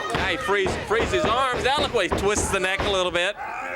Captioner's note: crowd chatter